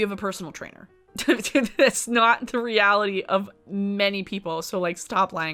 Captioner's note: laughs